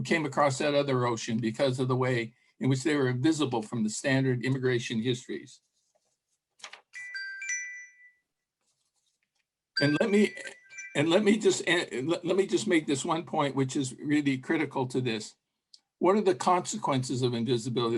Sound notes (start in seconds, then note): 7.0 bells ringing